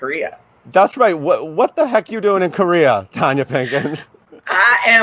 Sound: laughs

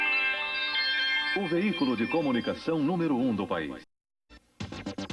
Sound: man speaking portuguese

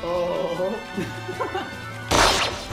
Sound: laughter

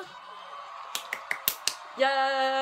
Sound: clap clap clap clap clap

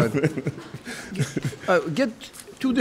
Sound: laughs

